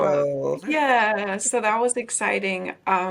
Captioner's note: speaking faintly